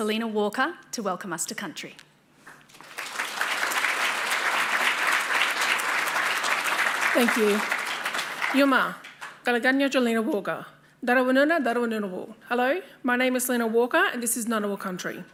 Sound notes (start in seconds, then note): 8.5 applause; 9.1 speaks Indigenous language